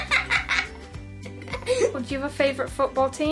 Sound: Harry laughs

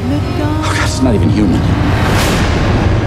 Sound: gasping

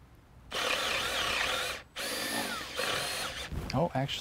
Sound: drill whirring, no additional audio

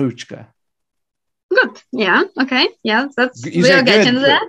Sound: speaks Ukranian

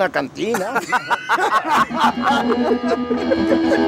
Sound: laughs

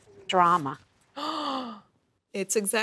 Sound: gasping

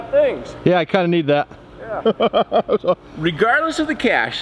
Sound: laughing

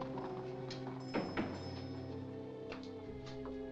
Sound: ominous music; door closes

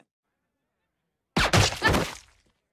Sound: silenced gunshot

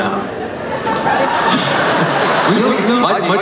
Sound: everyone laughs

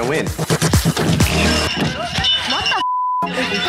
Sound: bell rings; beep

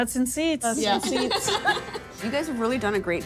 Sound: laughing

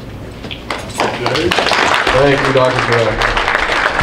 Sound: group applauds

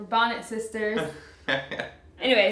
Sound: laughing

